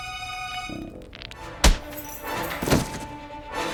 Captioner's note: dramatic music; smacking; dramatic music